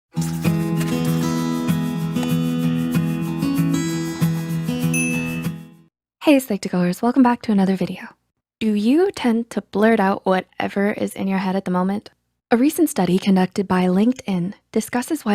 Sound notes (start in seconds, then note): 0.2 drawing utensil scratching; 0.2 gentle guitar music; 4.9 bell dings